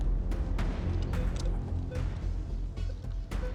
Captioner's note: beeping